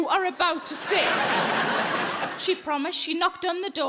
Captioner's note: audience laughing